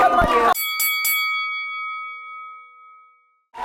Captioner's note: bell dings